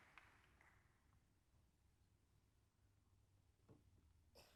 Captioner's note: applause